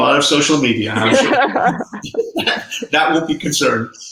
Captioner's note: laughing